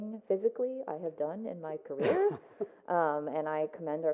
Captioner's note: laughs